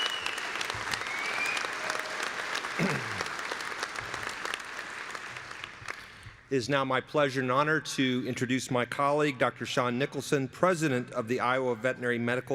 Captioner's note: applause